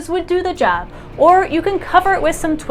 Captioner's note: truck goes